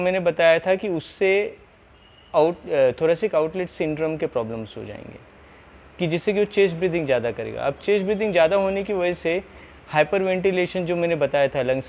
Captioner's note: hyperventilation